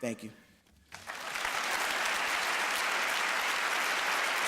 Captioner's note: applause